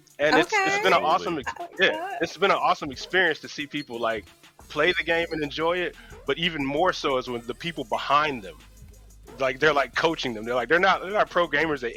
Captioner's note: laughter